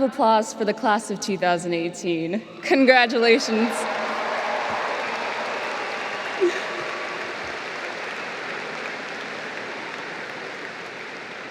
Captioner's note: applause